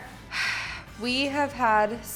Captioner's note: sighs